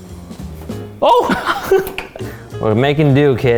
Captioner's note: laughs